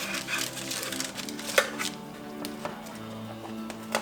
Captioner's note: rustling sound